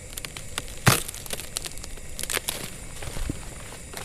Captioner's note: cracking